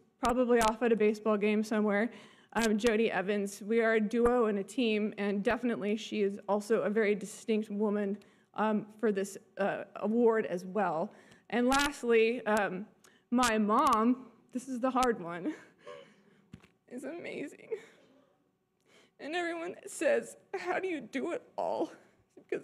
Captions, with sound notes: probably off at a baseball game somewhere, Jodi Evans, we are a duo and a team, and definitely, she is also a very distinct woman, for this award, as well. And lastly, my mom, this is the hard one, (tears up) is amazing. And everyone that says, "How do you do it all?"